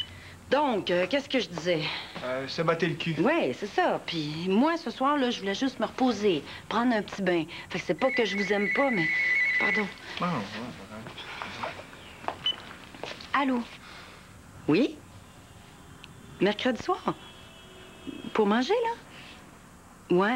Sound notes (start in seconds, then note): 8.0 Le téléphone sonne